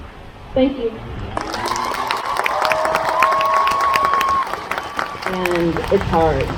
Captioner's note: crowd cheers